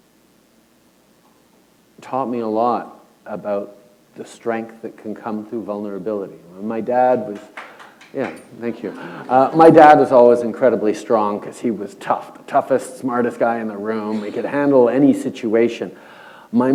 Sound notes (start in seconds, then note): 7.3 applause